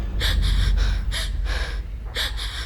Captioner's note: gasps